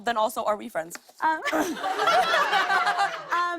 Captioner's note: laughter